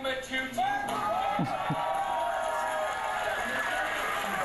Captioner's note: cheering